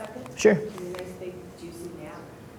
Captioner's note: voice muffled